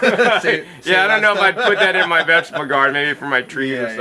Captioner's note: both laughing